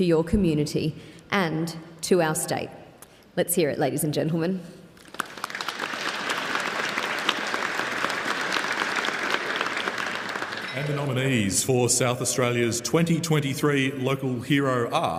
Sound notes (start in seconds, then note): 8.1 applause